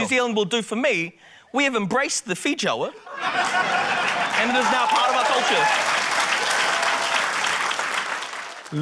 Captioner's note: cheering, applause